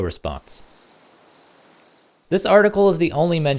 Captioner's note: crickets